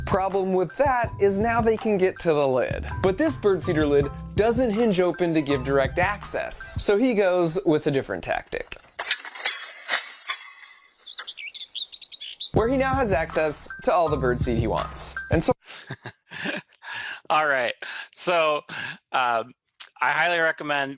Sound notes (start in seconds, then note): 8.6 metal clangs; 10.2 bird sings; 15.7 laughs